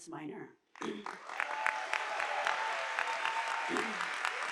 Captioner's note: audience applauding